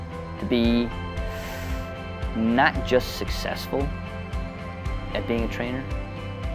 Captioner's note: inhaling